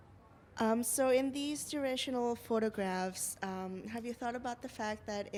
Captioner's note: voiceover